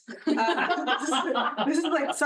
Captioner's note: attendee laughing